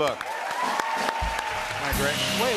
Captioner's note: cheers and applause